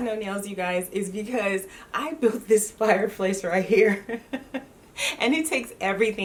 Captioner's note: laughs